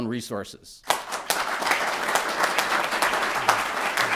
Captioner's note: applause